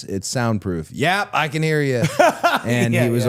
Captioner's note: Santino laughs